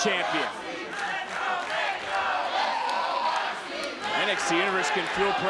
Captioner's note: audience chanting